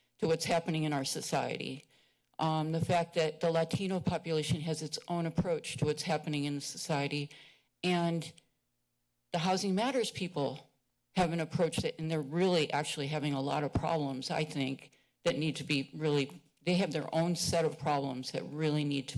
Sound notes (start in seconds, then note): none